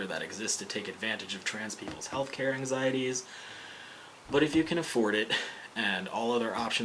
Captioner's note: deep inhale